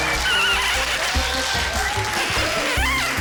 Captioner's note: cheering, applause; markers squeak